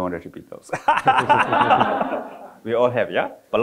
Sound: all laughing

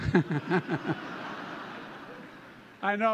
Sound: laughter

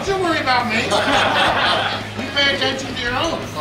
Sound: laughing

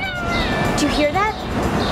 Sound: meow

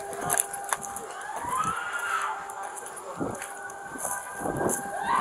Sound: screaming

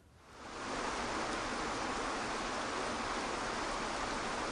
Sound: water flowing

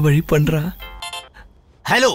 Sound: phone rings

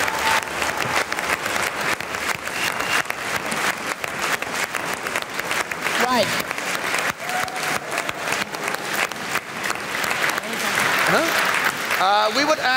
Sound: applause

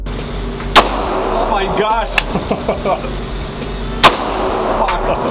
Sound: cool vibe techno music; gunshots banging; laughing

